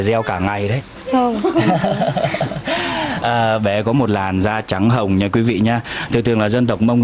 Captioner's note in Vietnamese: tiếng cười